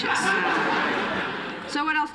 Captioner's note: laughter